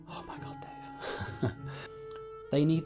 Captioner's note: laughing